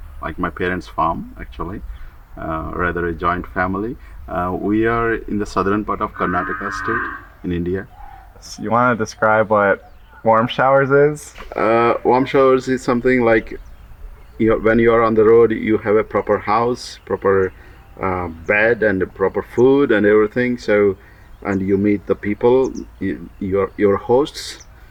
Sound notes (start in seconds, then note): 5.8 cow mooing in background